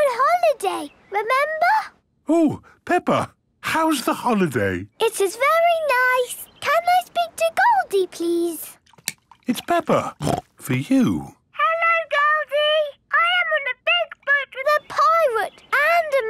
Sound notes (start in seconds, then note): 10.0 snorts